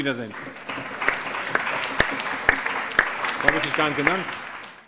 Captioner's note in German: Allgemeiner Beifall